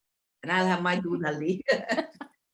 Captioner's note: speaking in foreign language